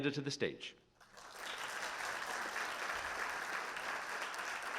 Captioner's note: audience applauding